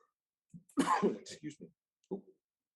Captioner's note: coughs